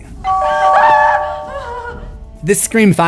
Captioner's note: screams